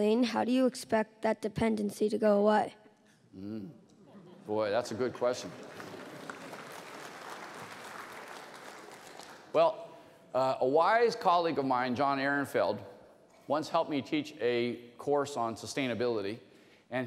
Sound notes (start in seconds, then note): 4.0 laughter; 4.9 applause